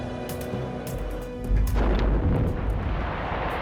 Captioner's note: explosion